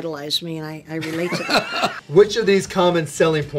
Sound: laughing

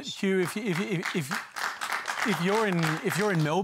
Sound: applause

